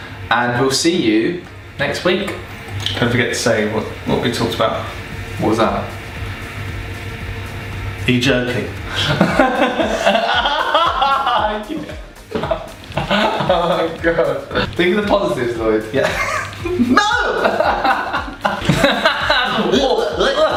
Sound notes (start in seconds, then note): 8.9 laughing; 18.1 laughing